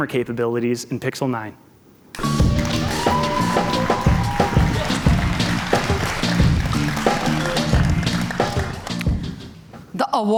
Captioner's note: cheers and Applause